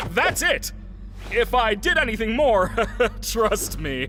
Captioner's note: laughs nervously